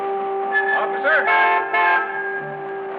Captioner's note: car horn honks